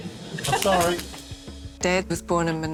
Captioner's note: chuckles